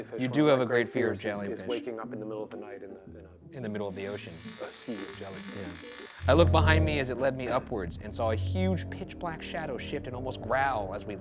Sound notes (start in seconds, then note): 4.7 electricity crackles